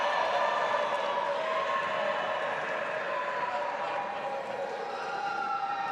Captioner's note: audience applauding and cheering